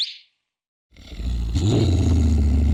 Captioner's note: growls